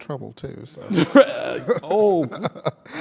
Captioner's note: laugh